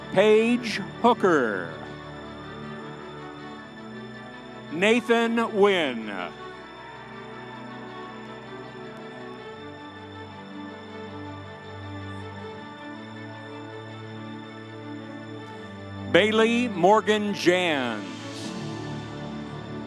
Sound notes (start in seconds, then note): 2.2 audience cheering; 6.8 audience cheering